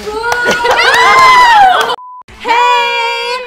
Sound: laughing

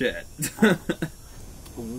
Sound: chuckles

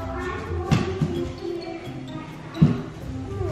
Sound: none

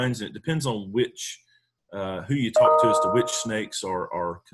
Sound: ping sound

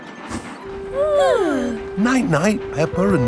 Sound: both yawning

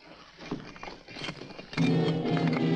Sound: bricks falling; ominous music

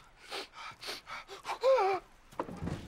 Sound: sniffing

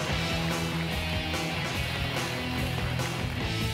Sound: joyful holiday music; crowd clapping

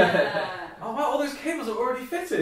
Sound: laughing

